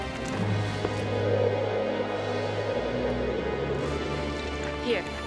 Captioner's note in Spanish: viento silbando